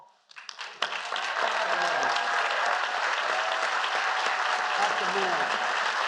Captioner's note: applause